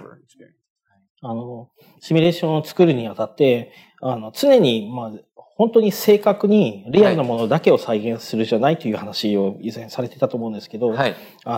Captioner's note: speaking japanese